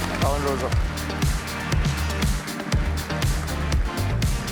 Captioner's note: cheers, applause